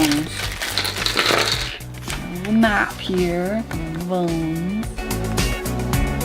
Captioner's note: plastic hitting the table; funky music